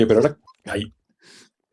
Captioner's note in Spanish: más risas jaja